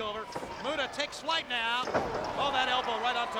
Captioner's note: body thuds